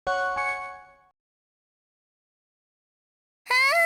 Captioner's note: silence